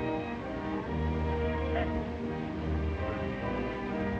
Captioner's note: sobbing